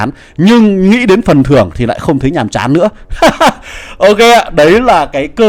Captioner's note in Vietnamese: tiếng cười